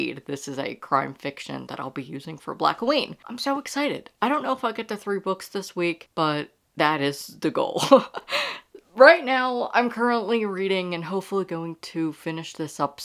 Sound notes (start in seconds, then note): 7.8 laughing